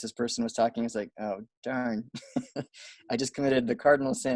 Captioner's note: chuckles